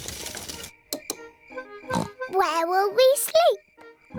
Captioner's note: oinks